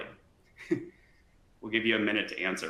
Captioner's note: speaker chuckling